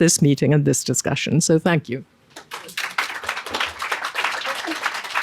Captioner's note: audience clapping